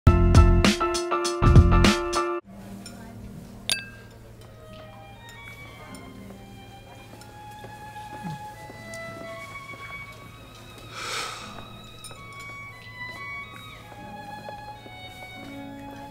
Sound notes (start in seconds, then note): 3.7 clink; 11.0 sigh